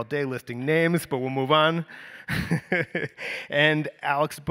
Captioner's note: laughs